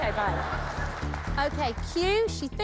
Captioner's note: laughter